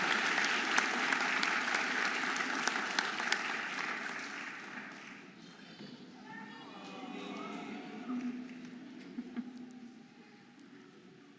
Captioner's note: audience applauding and cheering